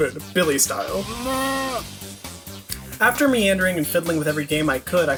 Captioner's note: goat baaaah sound effect